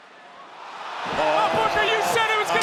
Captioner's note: crowd oohing